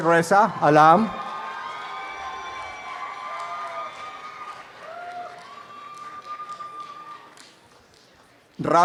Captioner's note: applause and cheering